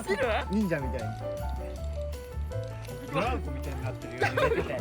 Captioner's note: laughs